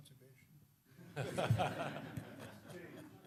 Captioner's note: laughter